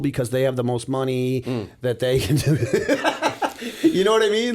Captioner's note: laughter